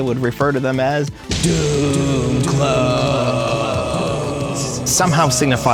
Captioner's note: echo